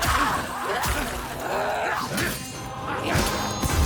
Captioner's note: grunting